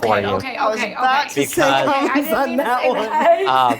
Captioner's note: laughs